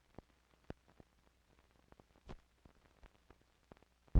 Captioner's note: static crackling